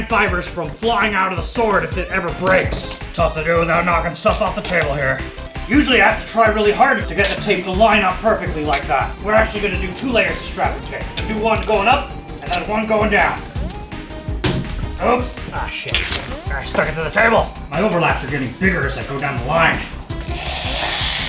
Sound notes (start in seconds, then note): 13.8 wood clatter; 20.2 tape ripping